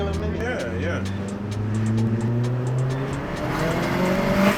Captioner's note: engine revving